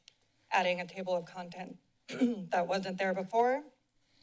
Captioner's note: clears throat